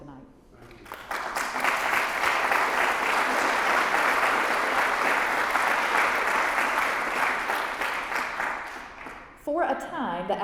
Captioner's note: applause